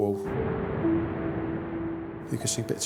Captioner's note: waves lapping